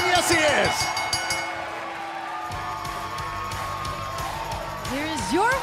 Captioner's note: bell ringing